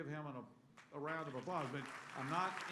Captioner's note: applause